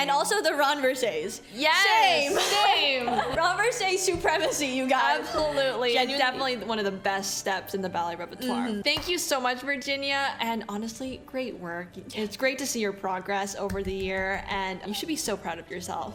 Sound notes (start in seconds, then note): 2.1 laughs